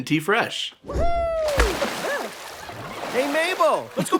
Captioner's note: splish splash